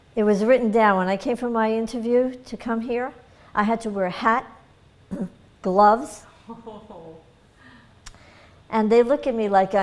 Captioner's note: laughter